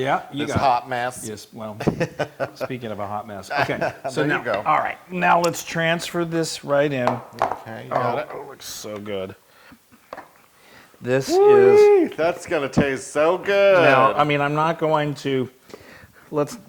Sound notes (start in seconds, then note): 1.3 laugh